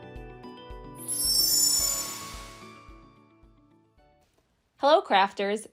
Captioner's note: light upbeat music; graphics twinkling